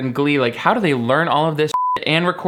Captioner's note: beep